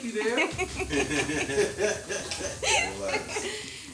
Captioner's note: laughing